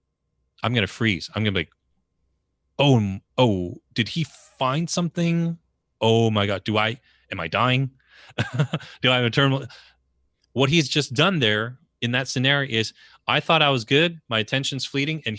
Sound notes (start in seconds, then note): 8.4 laughs